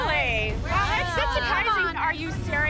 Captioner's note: chatter